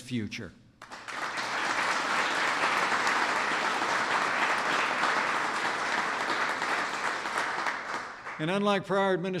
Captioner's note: applause